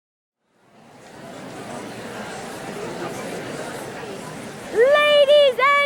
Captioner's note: audience murmuring